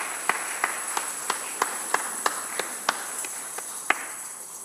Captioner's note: shakers rattling; congregation applauding